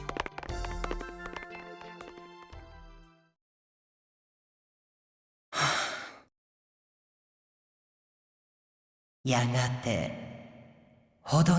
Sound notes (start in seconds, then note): 4.5 silence; 5.5 breath; 7.1 silence